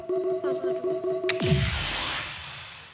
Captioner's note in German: Buzzer